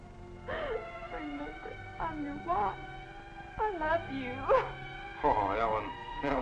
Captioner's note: sobs